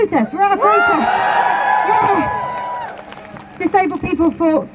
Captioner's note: crowd cheers